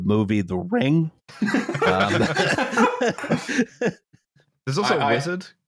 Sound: laughter

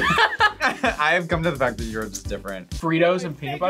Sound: laughs

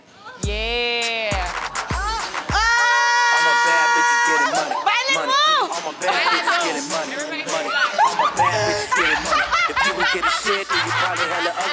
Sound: cheering

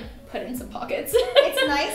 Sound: laughing

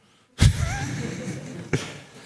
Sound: laughter

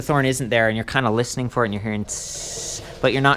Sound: makes hissing sound

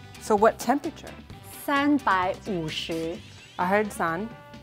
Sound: speaking in mandarin

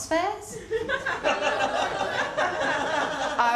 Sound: laughter

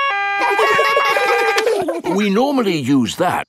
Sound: siren stops; siren wailing; kids laugh

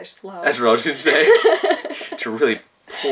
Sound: laughing

